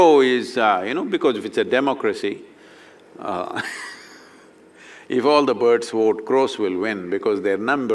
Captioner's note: laughs